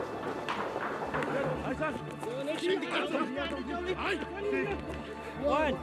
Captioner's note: shouting in afrikaans